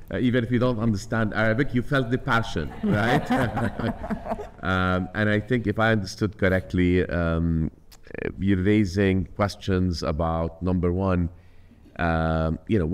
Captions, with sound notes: Even if you don't understand Arabic, you felt the passion. Right? (audience laughing) And I think if I understood correctly, you are raising questions about number one, you know,